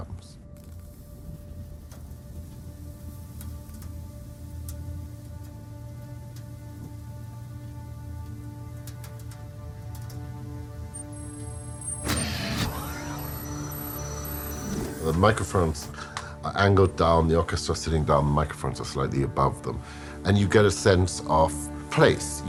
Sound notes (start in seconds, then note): 10.9 hydraulic noises